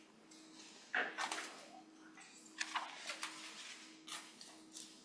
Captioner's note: papers rustling